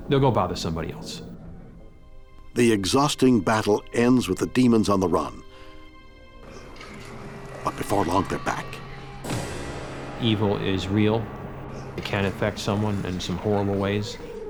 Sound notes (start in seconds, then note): 9.1 body thuds; 9.1 dramatic music